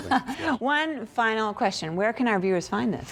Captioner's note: laughter